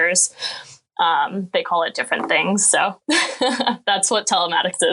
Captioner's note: laughing